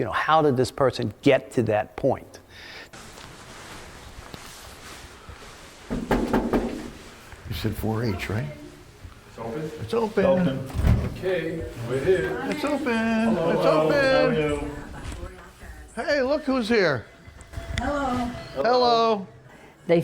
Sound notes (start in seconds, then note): 2.9 jackets rubbing together; 5.9 knocking loudly